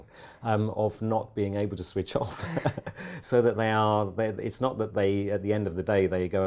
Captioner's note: laugh